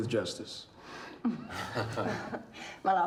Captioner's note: laughter